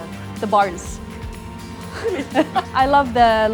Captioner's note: laughing